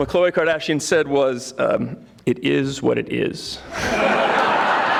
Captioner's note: audience laughing